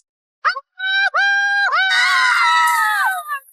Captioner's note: screaming